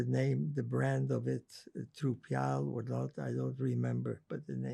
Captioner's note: non-english